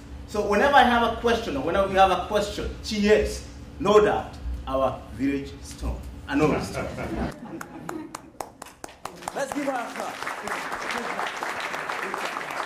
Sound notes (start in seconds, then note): 10.3 applause